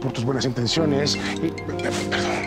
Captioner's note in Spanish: Suena el celular